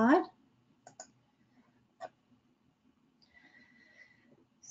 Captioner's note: mouse clicking